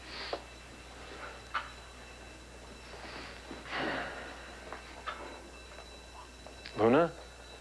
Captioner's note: alarm rings